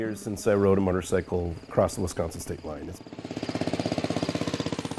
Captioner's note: motorcycle engine chugs